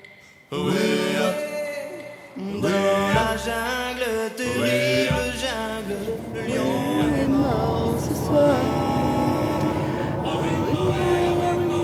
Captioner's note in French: chant